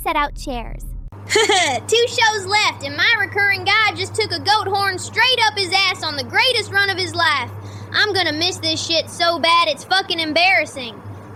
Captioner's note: laughs